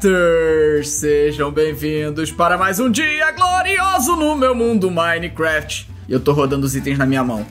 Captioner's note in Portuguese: cantarolando